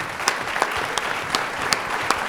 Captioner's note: applause